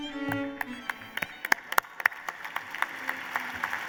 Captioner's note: applause